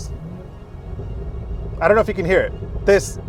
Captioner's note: engine revving